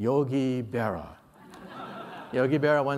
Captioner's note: laughter